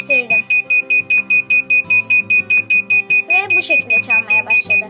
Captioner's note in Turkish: buzzer sesleri